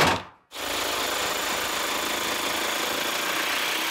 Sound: drill whirring

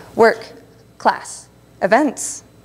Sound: none

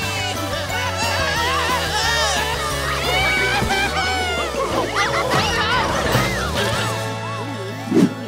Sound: screaming

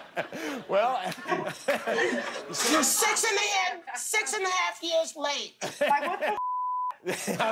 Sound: laughter

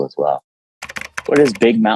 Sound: keyboard clicking

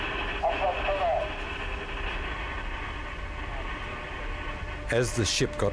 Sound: distorted radio communication

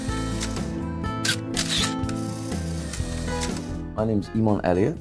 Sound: light music; camera snapping

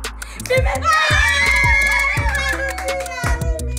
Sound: cheering

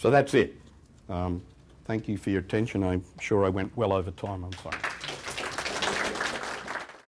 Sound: clapping

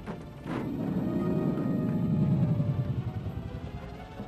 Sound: monster still roaring

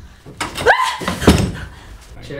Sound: Liz screams

